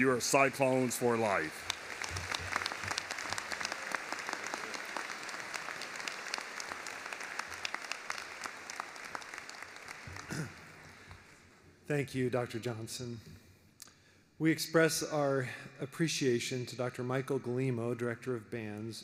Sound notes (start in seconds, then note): 5.6 applause